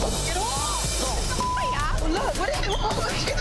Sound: beep

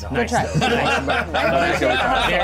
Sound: co-hosts laughing

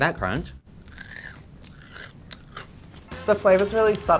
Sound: loud crunching

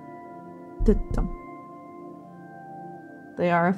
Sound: heart beating

